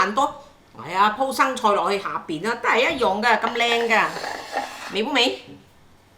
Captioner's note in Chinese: 廣東話